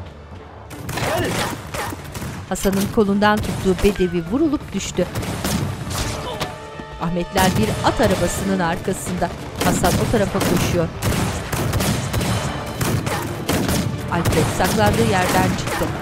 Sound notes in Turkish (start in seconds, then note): 3.2 Silah sesleri; 14.3 Müzik - Gerilim; 14.3 Silah sesleri